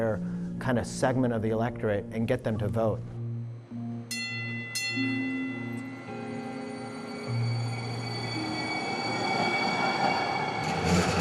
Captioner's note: bell dings